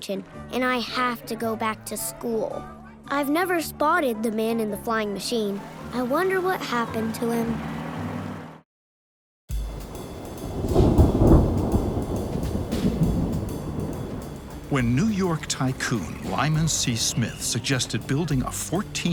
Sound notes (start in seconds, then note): 5.6 faint engine; 9.6 thunder Booming